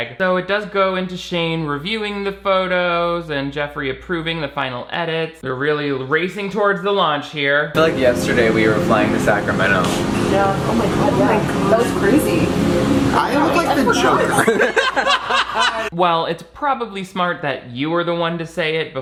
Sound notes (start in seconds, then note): 13.3 group laughing